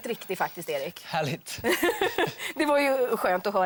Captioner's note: laughs